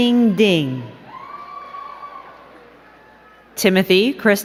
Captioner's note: crowd cheering